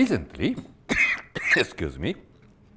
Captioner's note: coughs